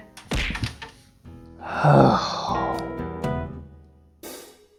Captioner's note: sighs, annoyed